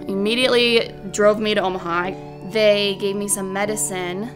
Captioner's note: ambulance sirens